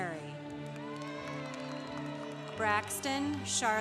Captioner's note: congregation applauding